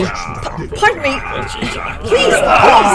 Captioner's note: Klingon muttering